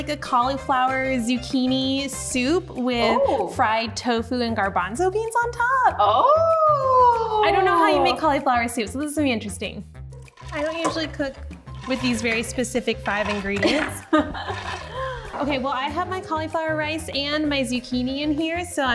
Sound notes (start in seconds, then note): 13.6 laughs